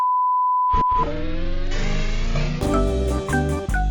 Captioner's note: distorted record; upbeat music